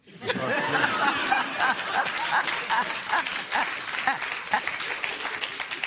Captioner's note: laughter